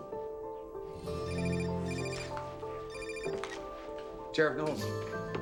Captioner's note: phone ringing